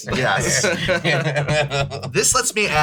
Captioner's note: laugh